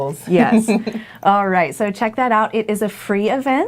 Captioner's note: laughing